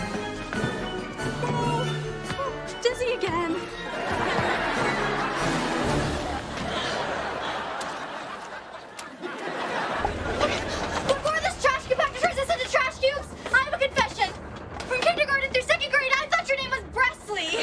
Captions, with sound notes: Woah. Dizzy again. [audience laughing] Before this trash compactor turns us into trash cubes, I have a confession. From kindergarten through second grade I thought your name was Brexley.